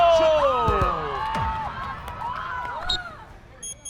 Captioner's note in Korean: 호루라기 소리